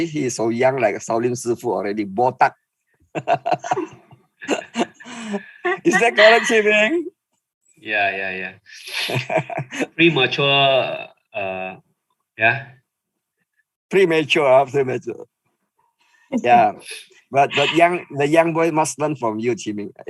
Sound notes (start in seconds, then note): 3.1 laughing